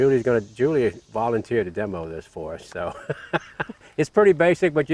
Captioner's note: laughing